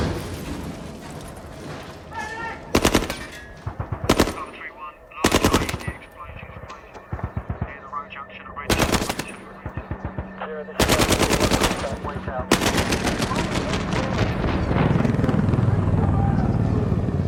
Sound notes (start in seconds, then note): 0.0 explosion booming; 0.0 guns firing